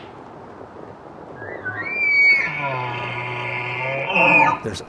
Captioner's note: bull Elk Bugle